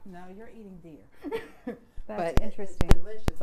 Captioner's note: laughs; chuckles